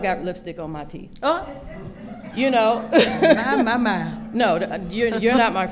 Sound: laughing

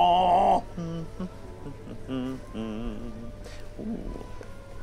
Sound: laughing; humming

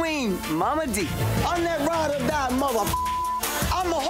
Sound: beep

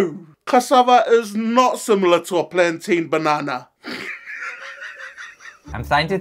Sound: laughs

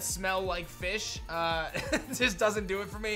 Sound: chuckles

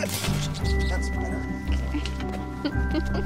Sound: giggling

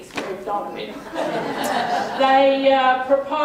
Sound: laughter

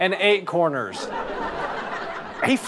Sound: audience laughter

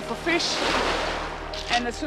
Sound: water splashing

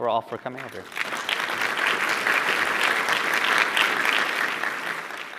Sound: applause

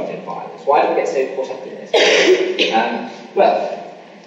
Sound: coughing masks speaker

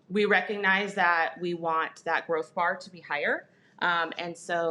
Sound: none

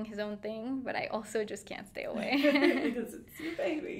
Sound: laughing

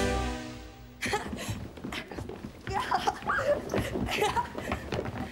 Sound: dramatic fanfare; children laughing

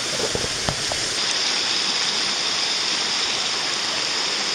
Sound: water running

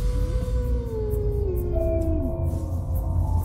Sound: wolves howling

